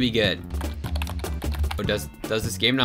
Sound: typing sounds

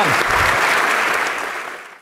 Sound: applause

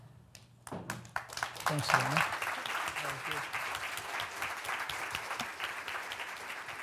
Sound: audience applauds

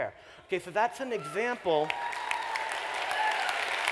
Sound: applause

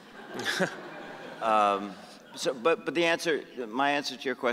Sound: audience laughing

